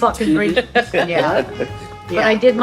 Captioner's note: all laughing